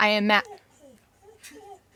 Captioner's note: dog crying in the back